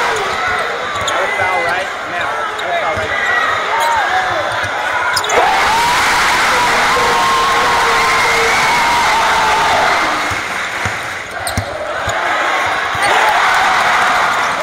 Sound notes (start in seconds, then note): 0.0 indistinct crowd chatter; 4.7 arena erupts; 10.1 clapping; 12.8 crowd cheers